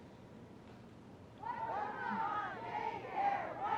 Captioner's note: chanting